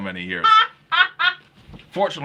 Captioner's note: laughing